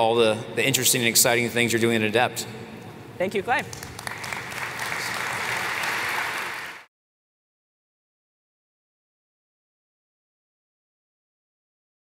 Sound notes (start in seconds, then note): 3.6 applause